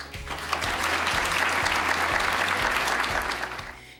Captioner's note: applause